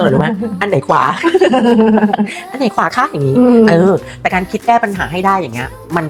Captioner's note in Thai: เสียงหัวเราะ